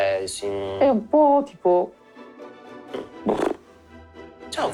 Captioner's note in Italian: Sbuffa